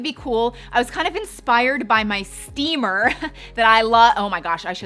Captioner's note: chuckles